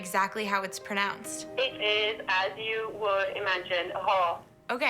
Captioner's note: woman speaks